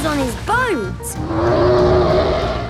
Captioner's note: loud roar